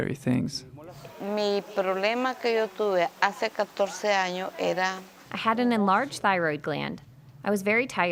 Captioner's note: speaking spanish